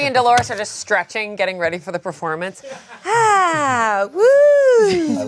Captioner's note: sighs